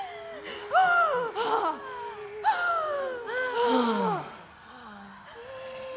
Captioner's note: gasps